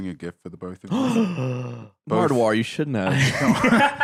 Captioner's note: gasps